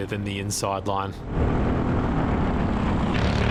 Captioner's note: engine revving